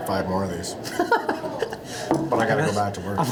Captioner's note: laughing